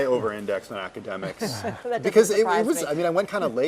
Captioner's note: laugh